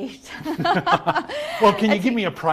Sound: both laughs

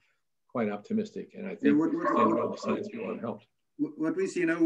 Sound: dog barking

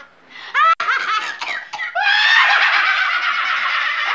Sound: both cackling; coughing

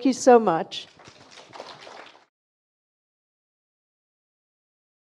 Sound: audience applauding

